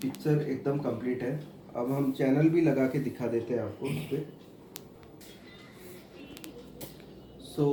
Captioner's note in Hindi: गला साफ़ करने की आवाज़